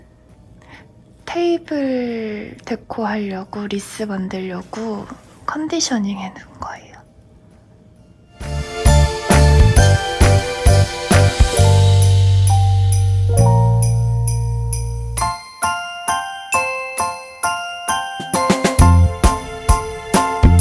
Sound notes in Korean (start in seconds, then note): 5.1 속닥속닥